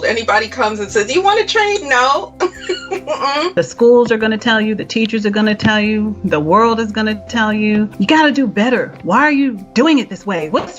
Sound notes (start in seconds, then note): 2.4 laughs